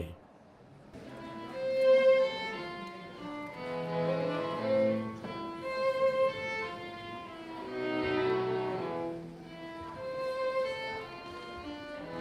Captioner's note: museum-goers chattering